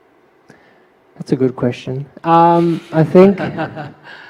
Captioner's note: Sunim Laughter